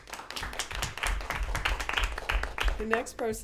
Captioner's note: applause